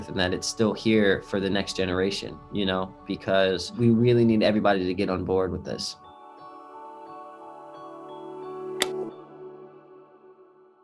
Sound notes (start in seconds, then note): 6.8 hopeful music; 8.8 clicks